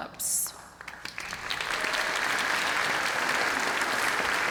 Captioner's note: applause